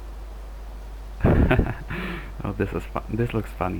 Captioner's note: laughs